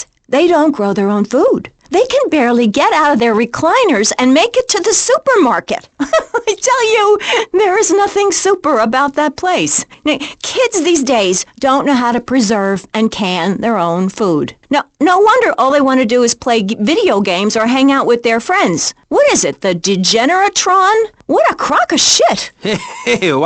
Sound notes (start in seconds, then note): 6.0 chuckling